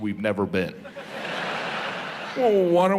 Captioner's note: laughter